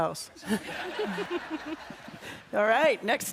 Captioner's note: audience laughs